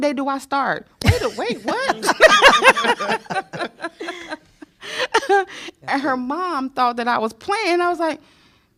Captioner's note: laughter